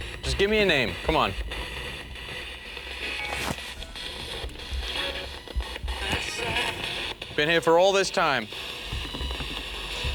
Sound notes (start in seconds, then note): 3.0 static coming from radio